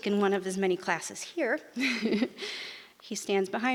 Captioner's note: giggles